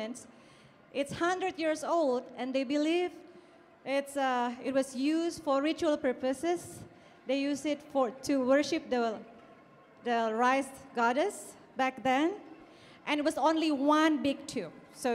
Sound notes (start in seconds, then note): 8.5 speaking in Indonesian